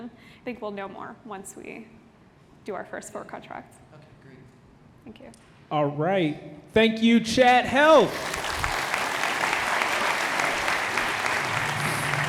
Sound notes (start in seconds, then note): 7.8 audience applauding